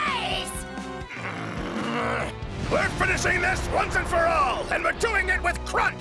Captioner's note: grunting